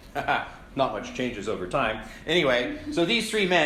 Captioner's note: laugh